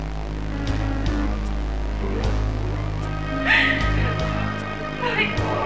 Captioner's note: machine noise growing